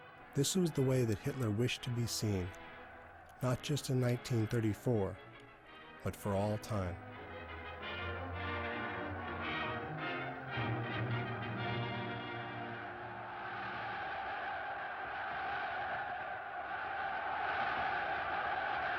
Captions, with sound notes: This was the way that Hitler wished to be seen. Not just in 1934, but for all time. [crowds cheering]